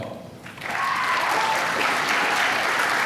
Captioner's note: applause